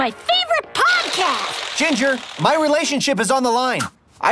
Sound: farts

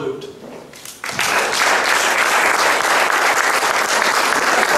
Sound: audience clapping

